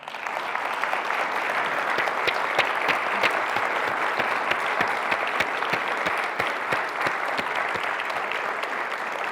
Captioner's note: applause